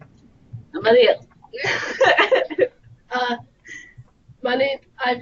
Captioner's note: laughter